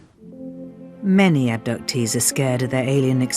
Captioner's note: voiceover